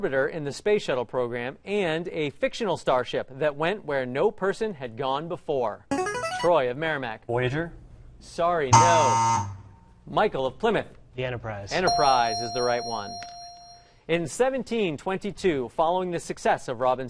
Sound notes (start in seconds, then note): 5.9 ringer; 8.7 buzzer; 11.8 ding